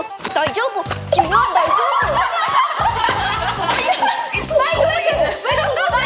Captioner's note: the microphone falls!